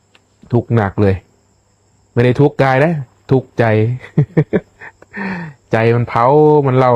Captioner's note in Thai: เสียงหัวเราะ